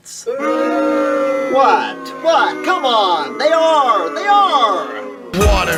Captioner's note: booing